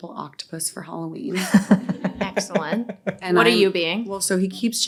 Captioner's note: all laughing